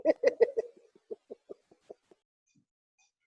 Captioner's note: laughter